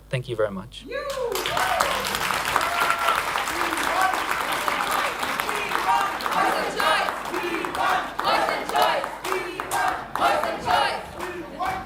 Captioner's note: applause